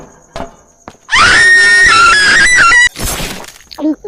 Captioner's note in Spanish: Grito desesperante